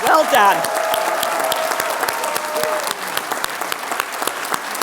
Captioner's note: applause, cheers